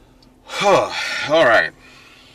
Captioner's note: happy sigh